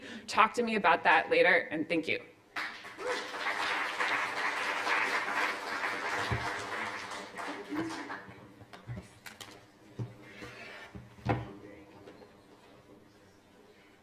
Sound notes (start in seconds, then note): 2.5 applause